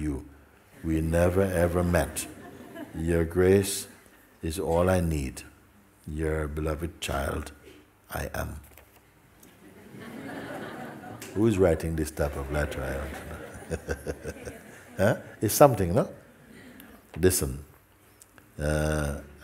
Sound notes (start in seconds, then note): 9.6 laughter